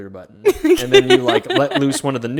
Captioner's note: chuckles